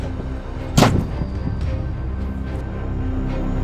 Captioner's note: slams the door shut